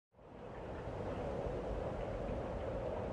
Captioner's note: wind